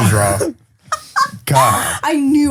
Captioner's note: laughs